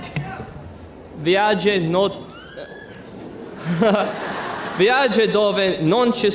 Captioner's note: speaking in foreign language